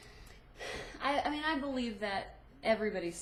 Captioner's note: sighs